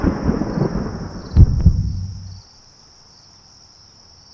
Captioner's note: heartbeat